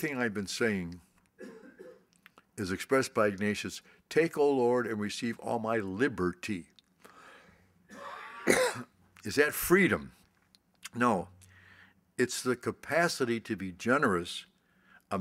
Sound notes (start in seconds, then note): 7.9 coughs